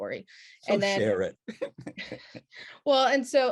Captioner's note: chuckles; laughs